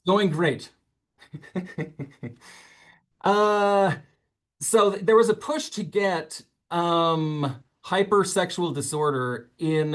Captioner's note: laughs